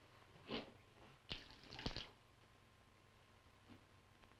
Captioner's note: liquid trickles